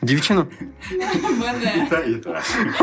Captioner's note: laughs